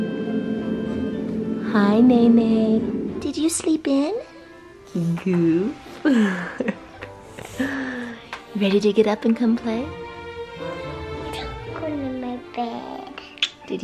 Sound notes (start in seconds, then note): 6.0 laughs